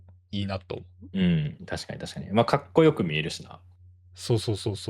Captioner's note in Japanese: 咳払い